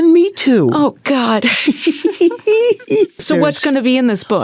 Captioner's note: Candice laughing